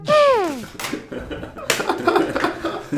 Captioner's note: upbeat music; laughs